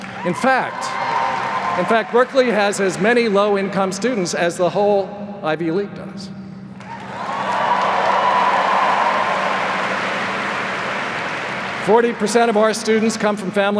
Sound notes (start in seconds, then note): 6.8 applause